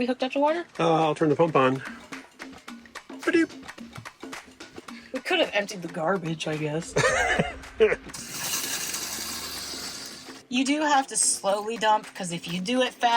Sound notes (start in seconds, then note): 6.9 laughing; 9.3 water splashing